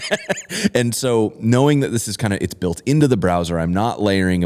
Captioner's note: laughter